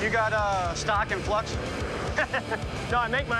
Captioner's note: laughs